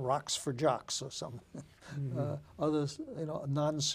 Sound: laughing

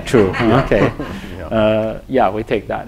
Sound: laughter

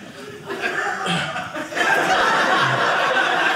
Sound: audience laughing

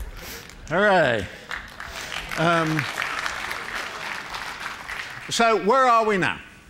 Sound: applause

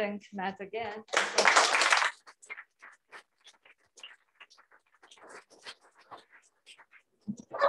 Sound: applause

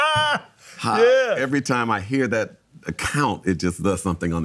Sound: laughs

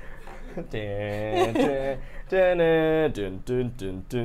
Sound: hums

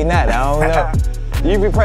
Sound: laughs

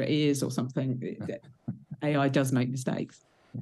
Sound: laughs

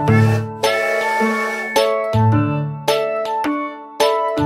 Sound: train whistles

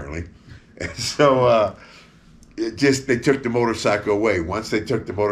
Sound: laughs

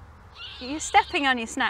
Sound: owl screeches

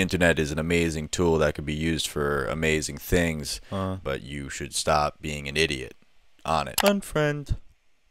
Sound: clicks

